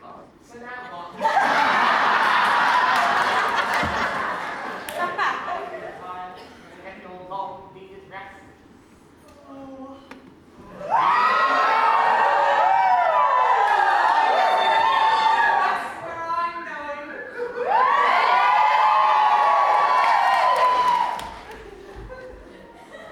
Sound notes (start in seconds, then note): 1.2 audience laughs; 10.7 audience screams; 17.5 audience cheers